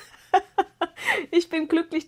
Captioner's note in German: gelächter